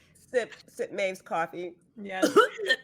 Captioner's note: coughs